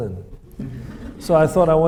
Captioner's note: audience laughs